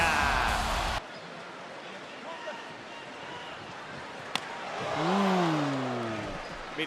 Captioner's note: applause